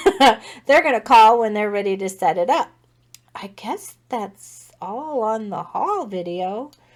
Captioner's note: laugh